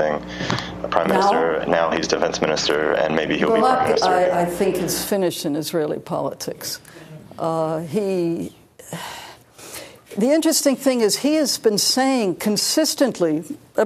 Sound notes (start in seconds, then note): 8.8 sighs